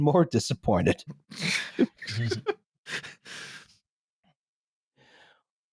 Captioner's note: stifled laughter